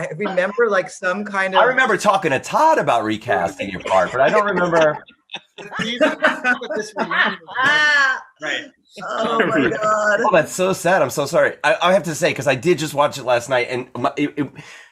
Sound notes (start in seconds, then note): 5.2 group laughing